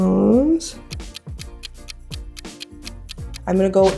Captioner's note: ticking